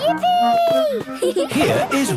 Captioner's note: gasps; giggling